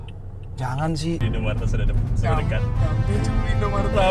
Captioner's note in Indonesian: suara GPS Cretivox